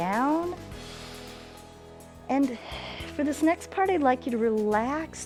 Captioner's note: inhales